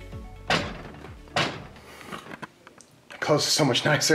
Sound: tapping

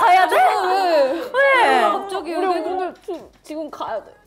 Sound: sob

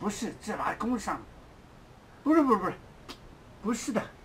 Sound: mandarin

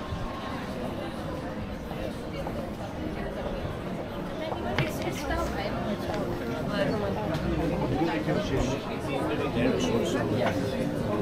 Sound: people chattering

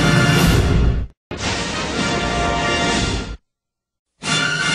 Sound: rousing fanfare playing; electricity zapping as rousing fanfare plays; rousing fanfare plays

